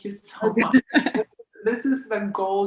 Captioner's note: laughs